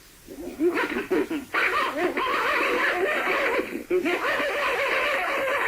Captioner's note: creature continues vocalizing